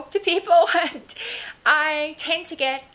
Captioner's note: laughs; laughs as she says "and"